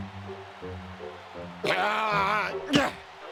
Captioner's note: groan